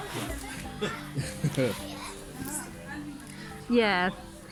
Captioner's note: birds chirping, people chattering; chuckles